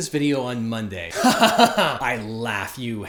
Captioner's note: heartily laughing